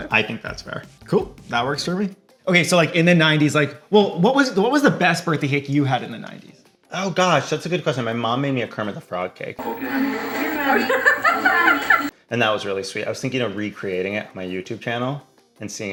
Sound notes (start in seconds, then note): 9.6 people laughing